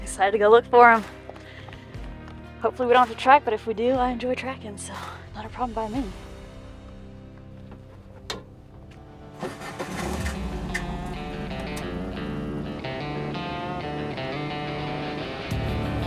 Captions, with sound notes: I'm excited to go look for him. Hopefully we don't have to track, but if we do I enjoy tracking, so not a problem by me. (ATV burbling) (upbeat country rock music)